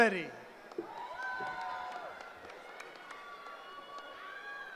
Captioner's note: cheering